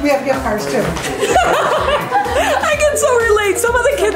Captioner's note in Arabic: زوجة آرون تضحك